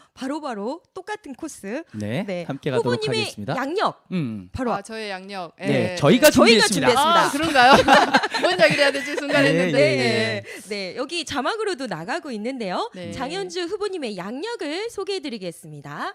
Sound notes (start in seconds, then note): 6.9 웃음